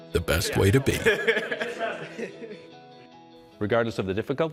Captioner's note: laughing